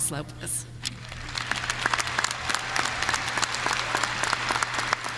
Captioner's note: audience applauding